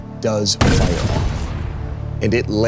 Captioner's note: cannon bangs